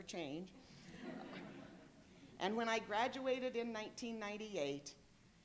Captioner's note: laughter